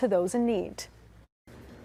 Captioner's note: nat/warehouse noise